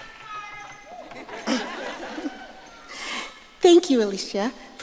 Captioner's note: audience laughing